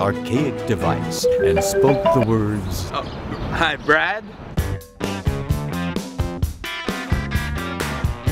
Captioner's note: ringing cell phone